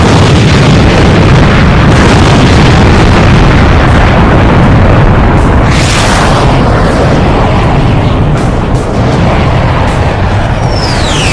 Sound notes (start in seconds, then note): 0.3 plane explodes; 6.1 plane engines roaring